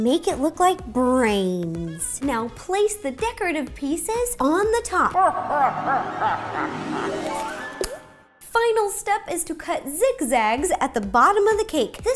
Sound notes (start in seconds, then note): 5.0 deep spooky laughter